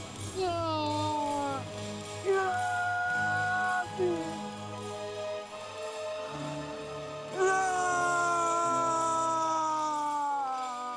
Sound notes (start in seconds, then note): 0.7 anguished shouting; 5.4 dramatic music